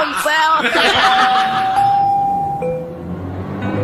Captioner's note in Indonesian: tertawa